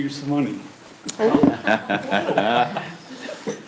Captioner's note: laughs